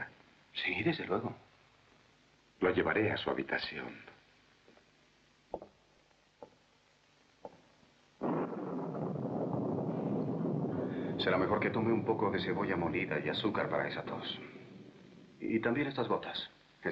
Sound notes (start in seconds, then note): 8.2 thunderclap